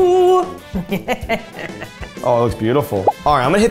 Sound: Safiya laughing

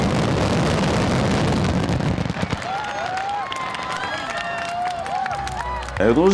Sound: fireworks explode and cheers and applause

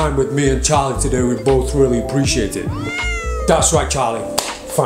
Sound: charlie meows

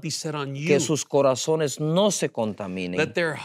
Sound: speaking in Spanish

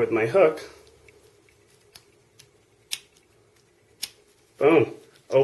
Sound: click...click

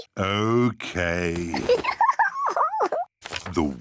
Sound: giggles

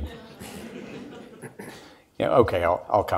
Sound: audience laughs

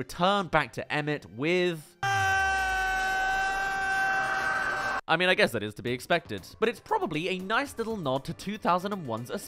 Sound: screams

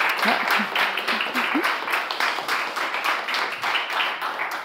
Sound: laughs

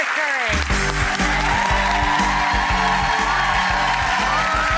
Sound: audience cheers

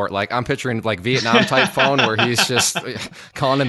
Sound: laughs

